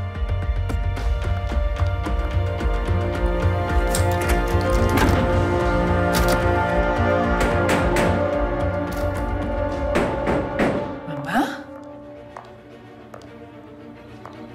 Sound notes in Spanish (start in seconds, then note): 7.1 Golpes